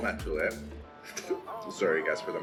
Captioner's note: slurping